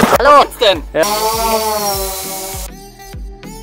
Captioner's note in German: drohnengeräusche